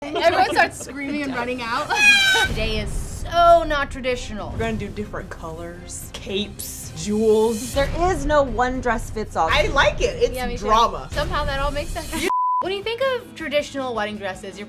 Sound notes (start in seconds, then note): 0.0 laughing; 1.9 screams